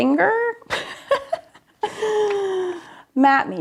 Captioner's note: laughs